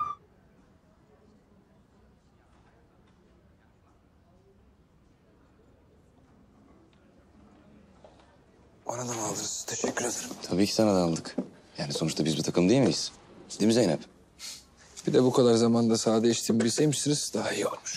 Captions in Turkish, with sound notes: (Sessizlik) Bana da mı aldınız? Teşekkür ederim. Tabii ki sana da aldık. Yani sonuçta biz bir takım değil miyiz? Değil mi Zeynep? Bir de bu kadar zamanda sade içtiğimi bilseymişsiniz daha iyi olurmuş.